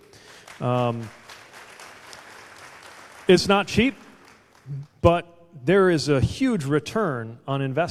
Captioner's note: applause